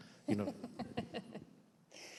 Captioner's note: laughter